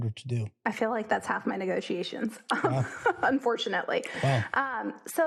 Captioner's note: laugh